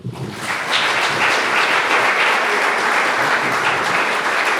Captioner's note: audience applauds